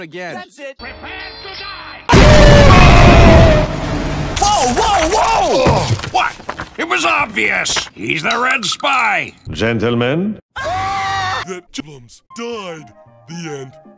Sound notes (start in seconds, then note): 2.1 explosion; 10.5 all screaming